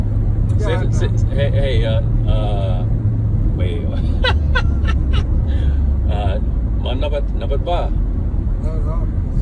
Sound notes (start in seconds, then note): 4.2 laughs; 7.2 speaks somali